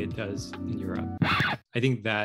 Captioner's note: record Scratch